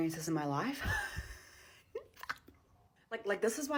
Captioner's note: laughs